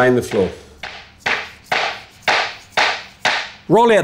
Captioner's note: tapping